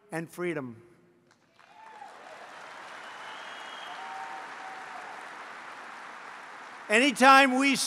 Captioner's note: applause